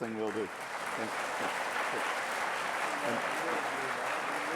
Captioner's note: applause